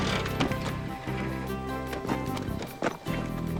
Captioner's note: gearbox grinds